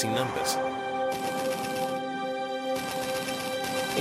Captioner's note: guns firing